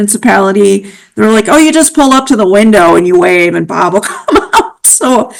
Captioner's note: laughing